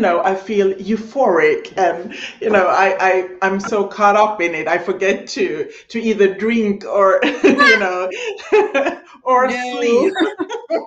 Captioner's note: laughing